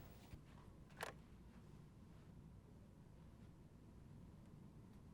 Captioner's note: cell phone clatters